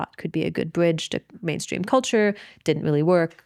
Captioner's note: none